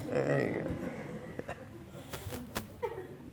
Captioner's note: all laughing